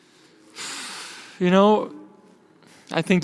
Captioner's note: sighs